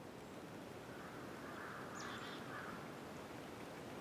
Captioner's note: birds cawing